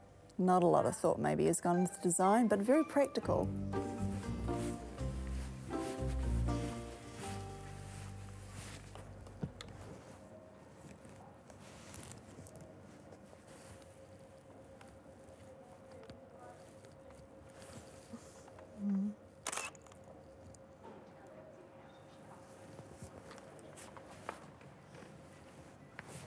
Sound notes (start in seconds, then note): 19.4 shutter clicks